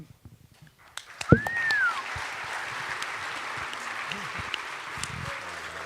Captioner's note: cheers and applause